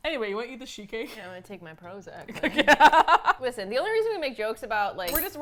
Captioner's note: laughs